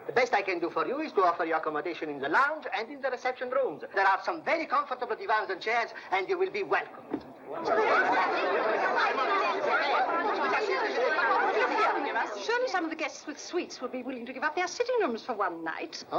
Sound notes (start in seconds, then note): 6.8 overlapping chatter